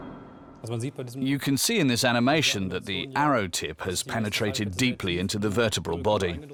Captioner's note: in German